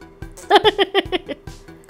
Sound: laughing

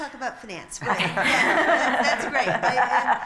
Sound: laughter

